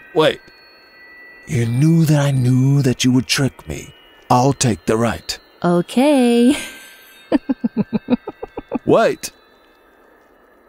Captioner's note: fox laughing